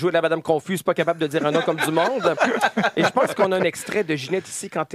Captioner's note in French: rires